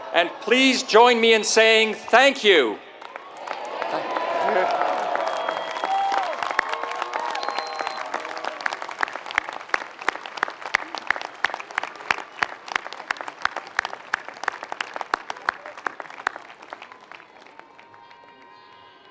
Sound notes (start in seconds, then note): 4.8 applause